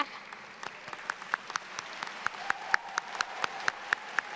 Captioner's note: audience claps